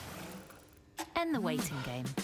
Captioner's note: clock ticking